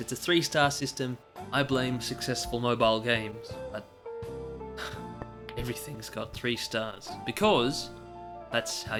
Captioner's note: sigh